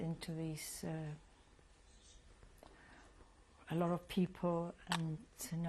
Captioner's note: pauses for 3 seconds